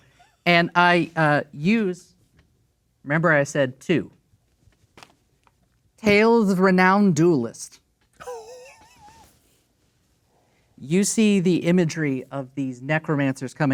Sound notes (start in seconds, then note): 8.2 laughing